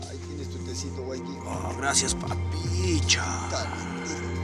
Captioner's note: Spanish spoken audio